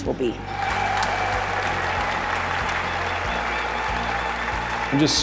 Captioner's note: audience cheering; audience applauding